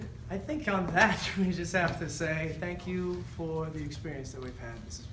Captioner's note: none